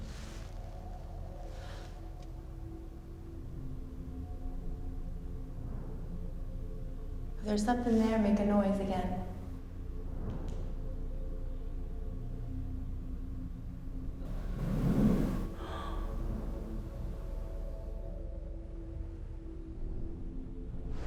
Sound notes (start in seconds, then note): 14.2 something drags on floor; 15.1 gasps